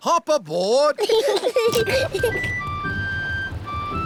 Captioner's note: peppa and george giggling